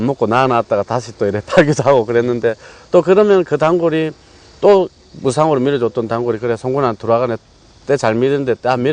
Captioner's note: laughs